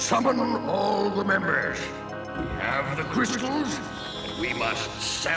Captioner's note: screeching